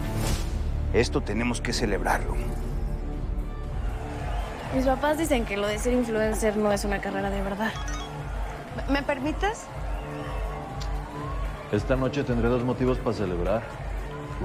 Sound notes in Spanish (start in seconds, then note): 7.7 Aviso de mensaje